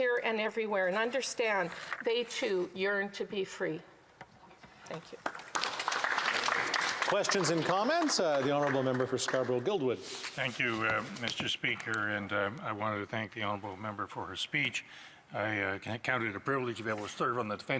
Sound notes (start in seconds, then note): 9.8 applause